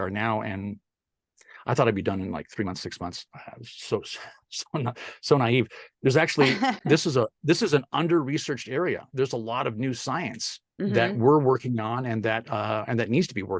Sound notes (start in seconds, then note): 3.6 laugh